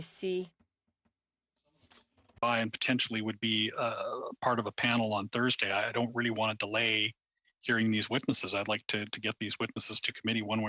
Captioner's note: speaking French